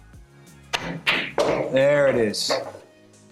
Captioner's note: balls clanging